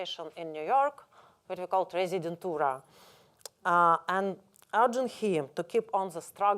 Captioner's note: russian